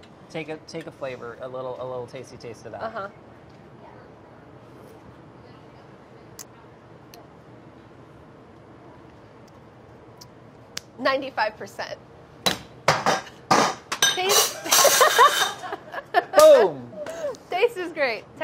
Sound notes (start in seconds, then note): 12.9 pots clanging; 17.5 laughs